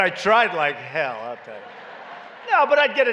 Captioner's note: laughter